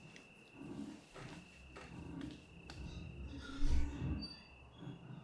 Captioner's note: object scraping